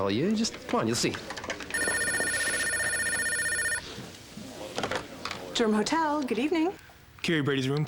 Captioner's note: telephone rings